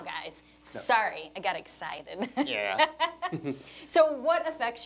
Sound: chuckles; laughs

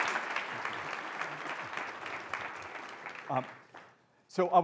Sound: audience applauding

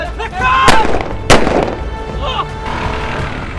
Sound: shouting and gunshots

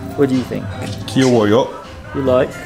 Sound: speaking in foreign language

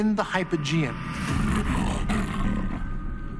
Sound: snarling

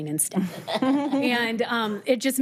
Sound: all chuckling

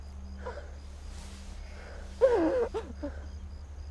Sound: Sheila sobbing

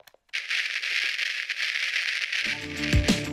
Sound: TV static; upbeat electronic music plays

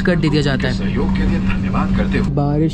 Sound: inflight announcement

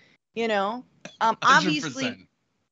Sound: laugh

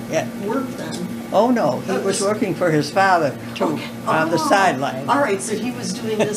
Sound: laughter

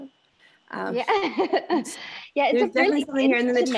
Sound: laughing

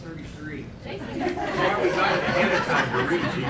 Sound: laughter

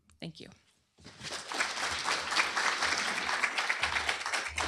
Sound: applause

